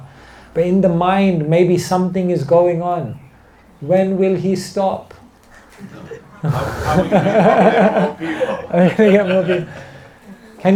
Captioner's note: laughter